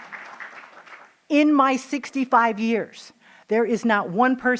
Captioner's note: applause